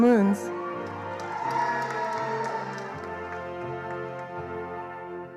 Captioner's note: attendees applauding